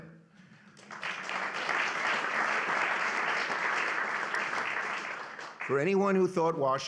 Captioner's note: applause